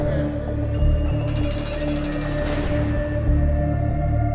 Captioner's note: people chattering